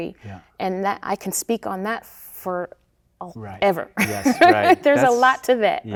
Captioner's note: laughing